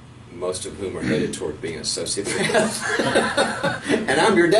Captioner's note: laughing